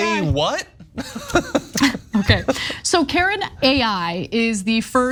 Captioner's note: laugh